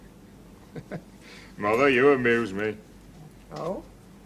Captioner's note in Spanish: Se ríe